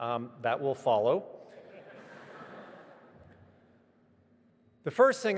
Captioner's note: audience laughing